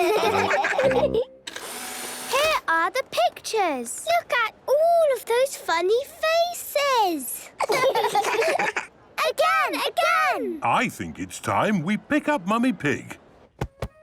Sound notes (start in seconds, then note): 1.4 whirring; 7.5 children laughing